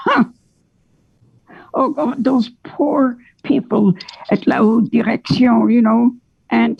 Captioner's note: speaks French